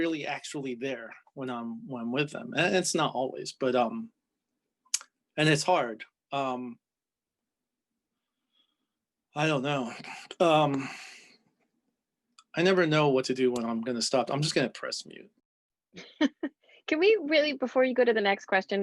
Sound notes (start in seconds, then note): 10.2 sighs; 16.0 laughs